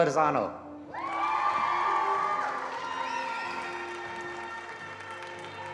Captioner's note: attendees applauding